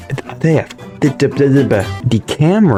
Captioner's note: mating Call